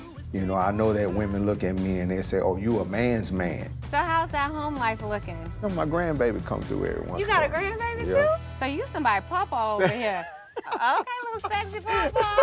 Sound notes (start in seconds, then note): 9.8 laugh